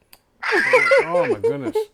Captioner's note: laughing